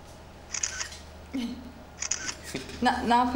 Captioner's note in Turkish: Deklanşör sesi